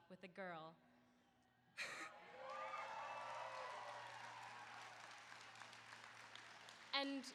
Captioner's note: applause